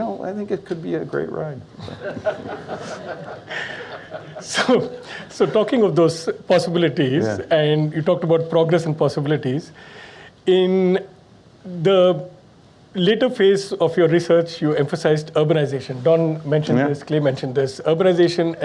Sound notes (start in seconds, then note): 1.8 audience Laughs; 5.2 laughs